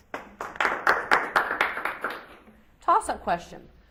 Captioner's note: audience applauds